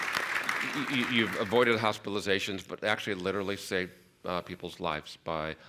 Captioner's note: applause